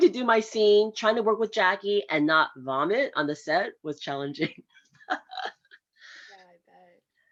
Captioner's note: laughs